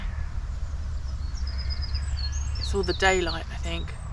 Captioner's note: birds & sheep